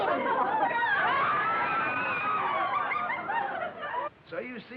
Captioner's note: yelling